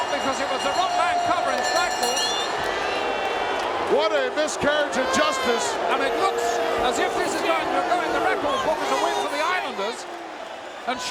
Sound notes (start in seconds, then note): 1.5 bell ringing; 1.5 mumbling; 3.2 audience booing